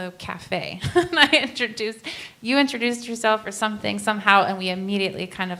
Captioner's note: laughs